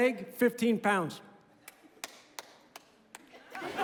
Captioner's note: one person clapping